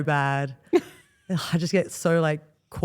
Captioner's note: Steph laughs